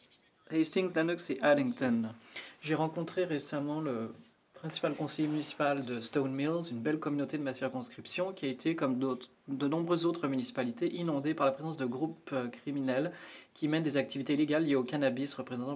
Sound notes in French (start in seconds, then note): 1.9 voix de l'interprète